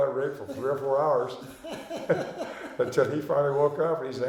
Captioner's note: laughing